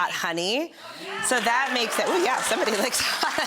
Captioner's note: audience sounds in approval